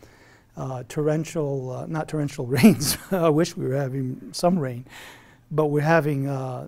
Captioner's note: laughs